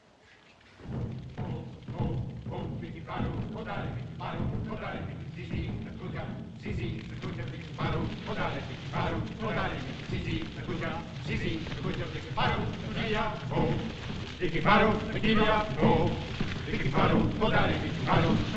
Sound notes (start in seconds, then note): 1.2 drums Beating; 1.2 men Chanting In African Language; 14.5 chanting Continues